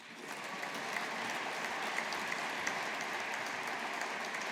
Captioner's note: audience applauding